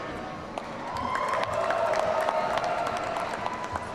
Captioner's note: audience cheering